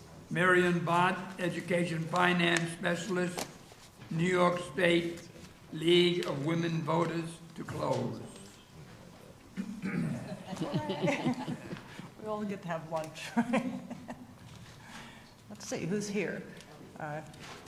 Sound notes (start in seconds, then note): 10.1 laughs; 13.3 laughs